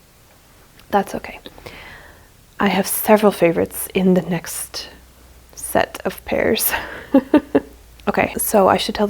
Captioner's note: laughs